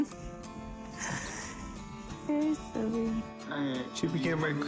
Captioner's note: chuckling